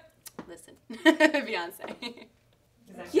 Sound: laughs

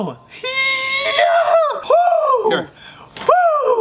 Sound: whining

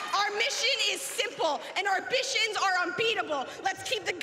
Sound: applause

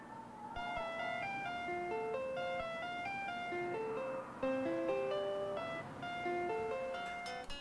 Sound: school bell rings

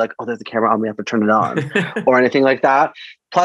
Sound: laughter

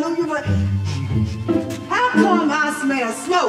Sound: sniffing

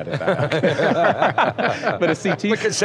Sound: laughing

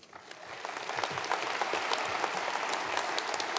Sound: applause

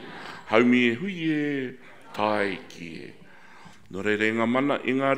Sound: speaking in foreign language

